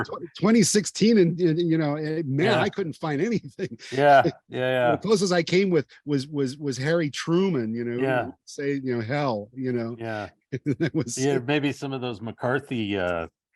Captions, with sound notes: 2016 and, you know, man, I couldn't find anything. Yeah. Yeah, yeah. The closest I came with was Harry Truman, you know. Yeah. Saying, you know, "hell," you know. Yeah. (laughing) And that was... Maybe some of those McCarthy